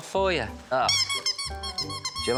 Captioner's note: toy squeaks